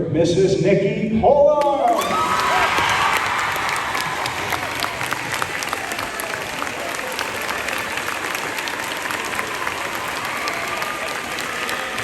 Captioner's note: applause